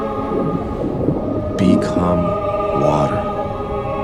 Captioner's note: water burbling; ethereal music